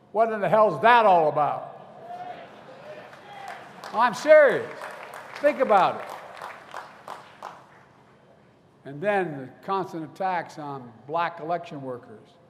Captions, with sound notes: What in the hell is that all about? (Applause.) I'm serious. Think about it. And then the constant attacks on Black election workers